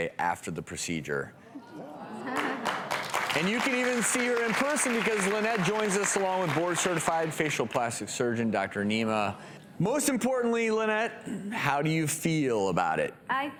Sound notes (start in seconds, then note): 2.3 audience oohs and applause